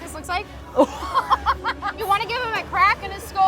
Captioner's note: laughs